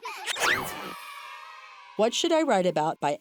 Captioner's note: children laughing; children cheering